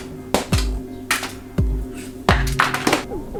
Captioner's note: snaps; card hits floor